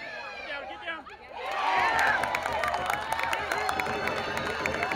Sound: crowd cheering

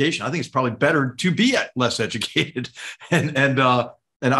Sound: laugh

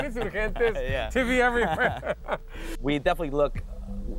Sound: laughs

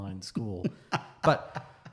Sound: laughs

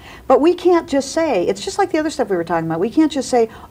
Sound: none

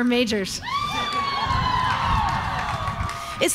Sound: crowd cheering

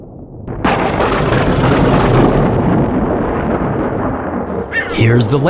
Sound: loud thunder; rumbles of thunder

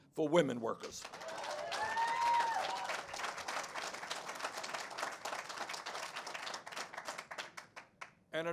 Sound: cheers and applause

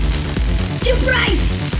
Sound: crackling electricity

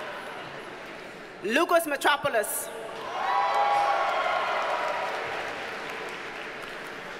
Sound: audience cheers and applauds

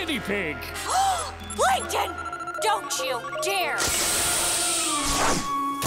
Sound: gasping

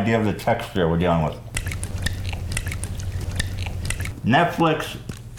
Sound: odd liquid noise, but closer

